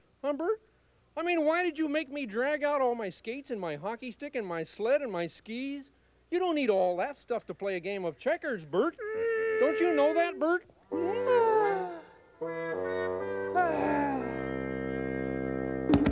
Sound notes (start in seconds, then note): 8.9 Bert groans; 10.9 moody music; 11.0 exasperated sigh